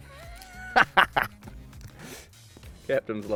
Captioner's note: laughs